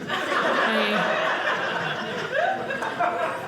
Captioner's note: audience laughing